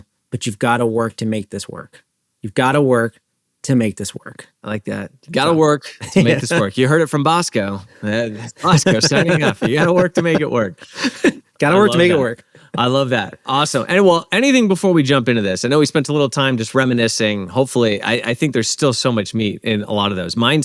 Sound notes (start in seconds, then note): 8.2 laughs